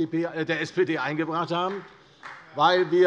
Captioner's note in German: Beifall bei Abgeordneten der SPD